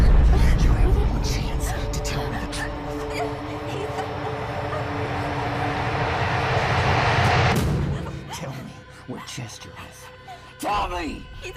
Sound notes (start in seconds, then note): 2.5 Susan whimpering; 3.3 soft ominous music